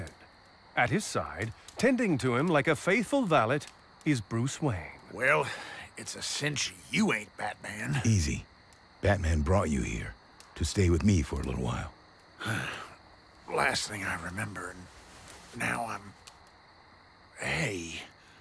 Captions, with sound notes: At his side, tending to him like a faithful valet, is Bruce Wayne. - Well, it's a cinch you ain't Batman. - Easy. Batman brought you here to stay with me for a little while. - [sighs] The last thing I remember-- now I'm--hey.